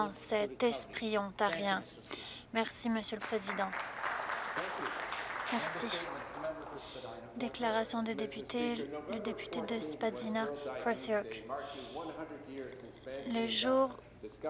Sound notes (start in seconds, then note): 6.5 applause